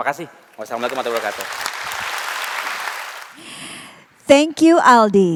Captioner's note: applause